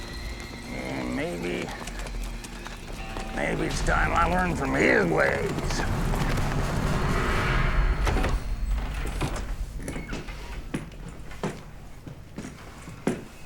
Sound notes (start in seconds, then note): 4.9 door opens